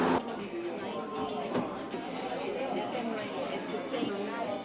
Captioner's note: all chattering